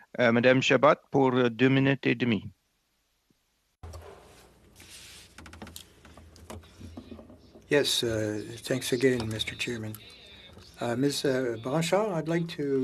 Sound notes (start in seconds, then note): 9.5 speaking French